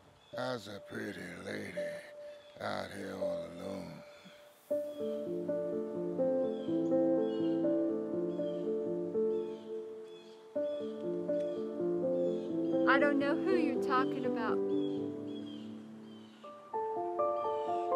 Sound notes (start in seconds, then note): 0.0 birds chirping; 4.7 gentle upbeat music; 8.7 birds chirping; 10.3 gentle upbeat music; 15.5 gentle upbeat music; 17.7 birds chirping